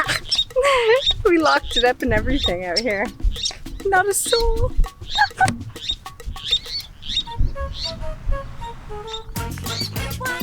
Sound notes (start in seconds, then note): 0.5 laughs; 4.8 bird chirping; 5.2 laughs; 8.7 salsa music